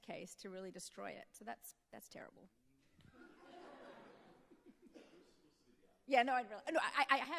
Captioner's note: audience laughing